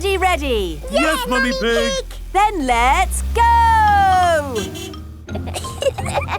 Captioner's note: honking; giggling